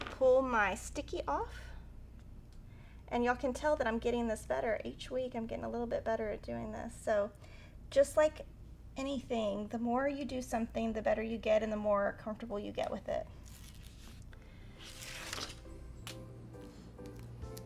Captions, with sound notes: Pull my sticky off and y'all can tell that I'm getting this better each week. I'm getting a little bit better at doing this. So, just like anything, the more you do something the better you get and the more comfortable you get with it. (paper rustling) (bright music)